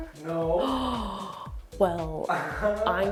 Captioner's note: gasps